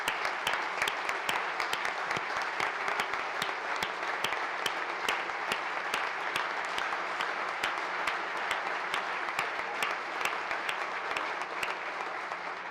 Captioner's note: applause